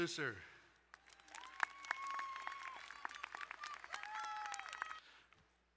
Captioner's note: crowd cheering and applauding